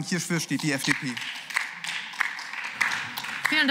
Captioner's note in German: Beifall